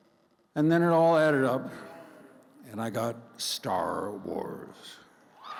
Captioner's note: crowd cheers